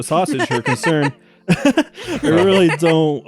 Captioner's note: laughs; chuckles